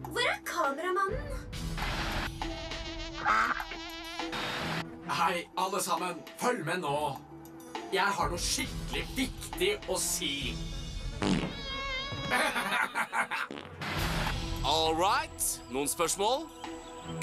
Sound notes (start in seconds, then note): 3.2 quacks; 11.1 farts